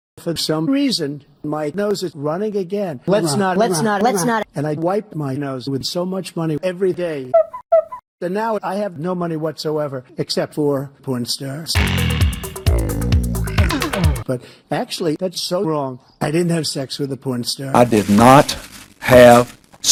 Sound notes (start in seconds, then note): 7.4 squeak squeak